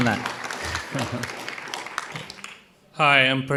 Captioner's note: audience applauding